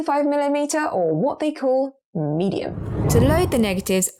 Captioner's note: video effect whooshes